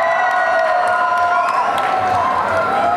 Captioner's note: applause and cheering